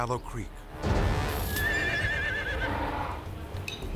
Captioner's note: horse neighing